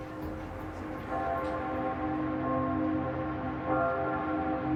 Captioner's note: church bells tolling